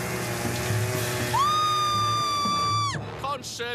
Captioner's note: screaming